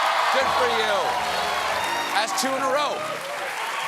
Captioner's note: cheers and applause